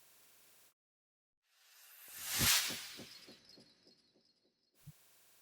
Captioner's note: sound effect